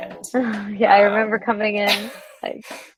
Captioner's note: laughs